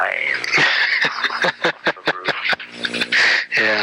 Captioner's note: laughs